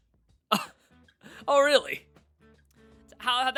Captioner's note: scoff